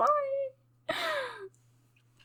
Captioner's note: sighs